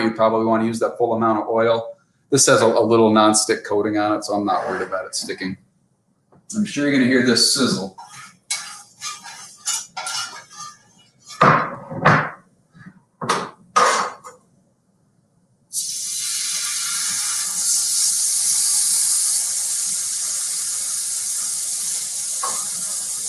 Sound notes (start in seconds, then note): 15.7 sizzling